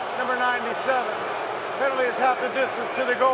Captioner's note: booing